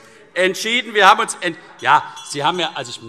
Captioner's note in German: Unruhe - Glockenzeichen